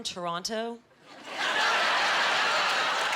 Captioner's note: cheering